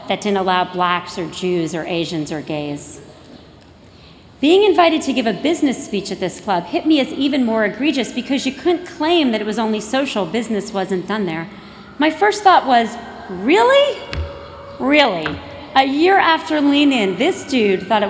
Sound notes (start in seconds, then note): none